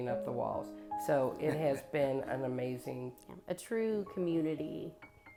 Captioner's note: laughs